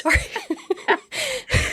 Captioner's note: laughs